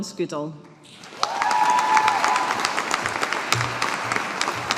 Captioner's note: audience applauding